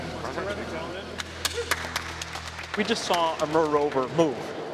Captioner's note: scientists clapping